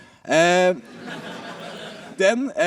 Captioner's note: laughter